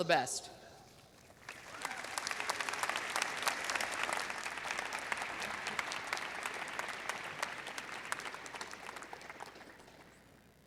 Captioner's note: applause and cheers